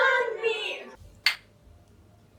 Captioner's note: clink